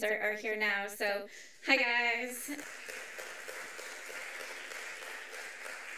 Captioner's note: audience applauds